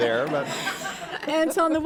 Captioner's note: laughter